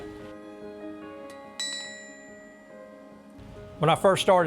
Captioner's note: pinging metal